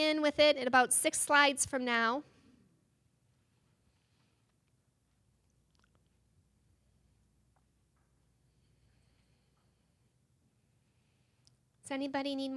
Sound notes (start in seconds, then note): 5.4 silence